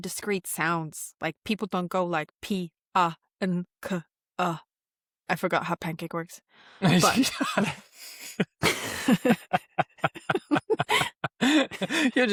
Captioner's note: laughter